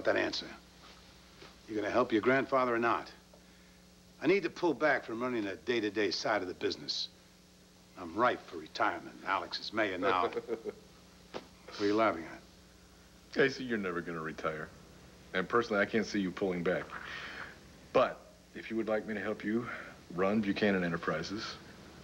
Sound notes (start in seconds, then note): 11.7 cord laughs